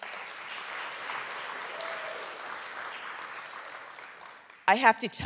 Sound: audience clapping

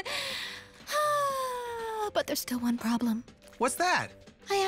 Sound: dramatic sigh

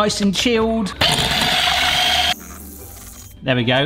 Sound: electric whisk whisking

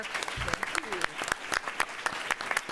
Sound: applause

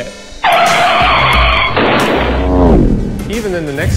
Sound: SOUND EFFECT: Brakes screeching

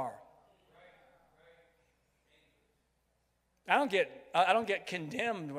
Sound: crowd

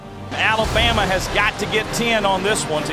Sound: voiceover

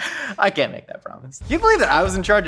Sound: laughs

